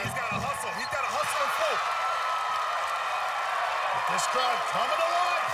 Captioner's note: cheering